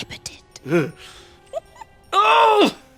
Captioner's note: giggle